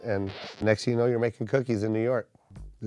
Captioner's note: record needle screeching